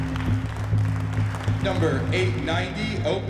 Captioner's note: host on mic